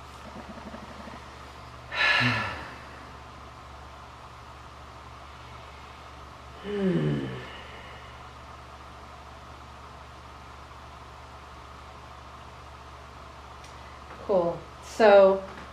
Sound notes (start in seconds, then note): 1.9 exhales deeply